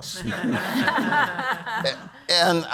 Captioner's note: all laugh